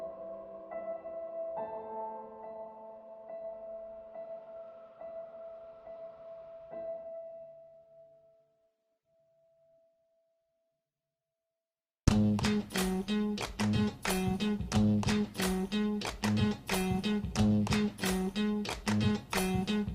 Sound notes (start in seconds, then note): 0.0 soft piano music playing; 9.2 silence; 12.1 upbeat music playing